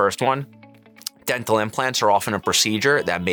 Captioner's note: tongue clicks